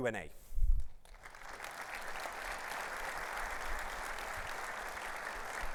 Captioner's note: audience applauds